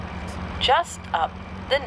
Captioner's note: none